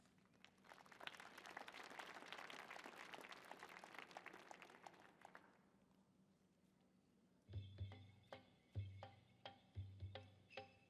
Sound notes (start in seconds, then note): 0.4 audience applauding; 7.8 upbeat drum music